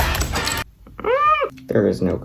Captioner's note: squeals